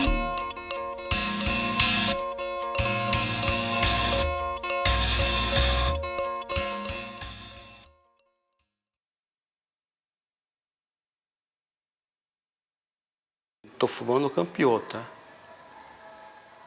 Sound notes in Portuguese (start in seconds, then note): 4.3 Música continua até silenciar; 10.2 Silêncio